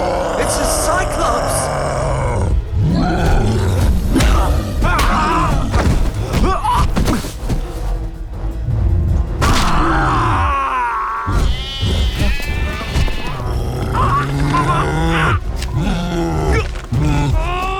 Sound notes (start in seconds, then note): 4.5 grunting; 9.4 screams; 11.0 goats bleating; 13.5 grunting